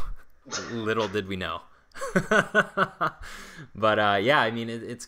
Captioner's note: laughs